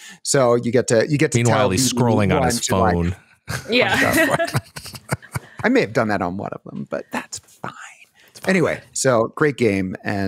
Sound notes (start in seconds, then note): 3.9 laughter